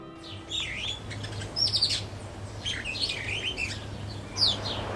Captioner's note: birds chirping